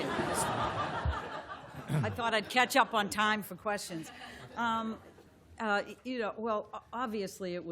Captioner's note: laughter